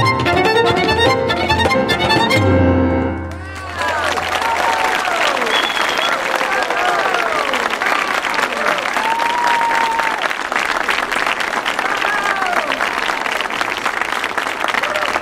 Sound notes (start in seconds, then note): 3.5 audience applauding; 8.7 audience cheering